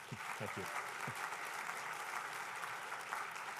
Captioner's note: applause